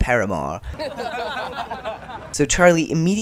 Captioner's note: boys laughing